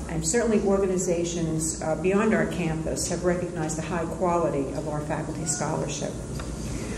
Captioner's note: none